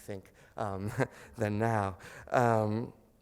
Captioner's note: chuckles